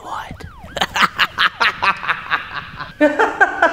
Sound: maniacal laugh

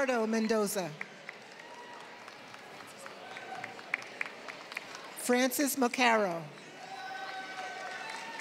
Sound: applause

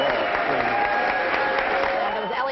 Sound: applause

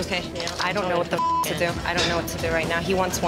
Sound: beeps

